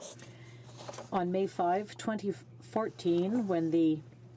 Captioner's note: speaking French